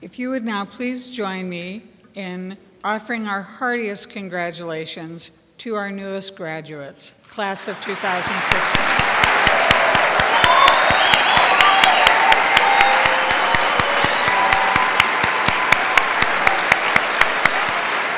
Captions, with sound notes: If you would now please join me in offering our hardiest congratulations to our newest graduates, class of 2016. (crowd cheers and applauds)